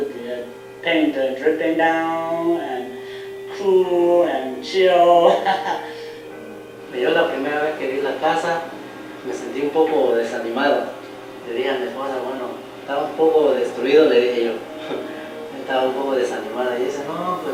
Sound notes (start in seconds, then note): 7.0 speaking Spanish